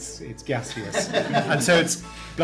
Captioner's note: laughter